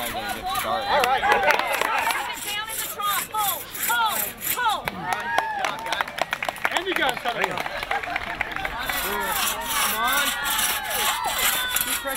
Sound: applause

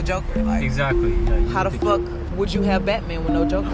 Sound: male Voice

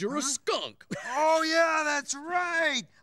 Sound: laughing

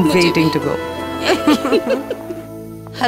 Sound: both laughing

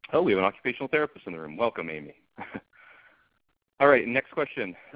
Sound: laughs

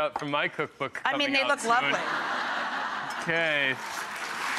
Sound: audience laughs

